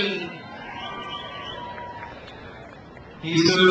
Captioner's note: crowd cheers